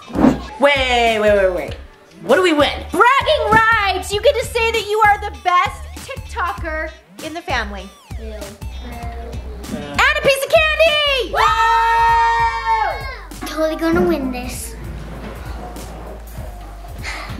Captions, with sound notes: - Wait, wait wait wait. What do we win? - Bragging rights! You get to say that you are the best TikToker in the family. - Boo. - Boo. - And a piece of candy! - (Cheering) - Totally gonna win this.